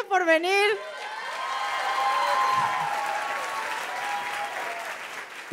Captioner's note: applause